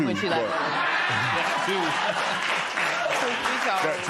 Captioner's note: laughter, applause